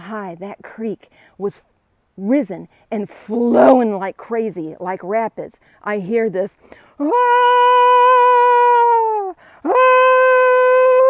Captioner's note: screaming